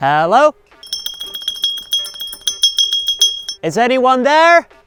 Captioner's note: bell dings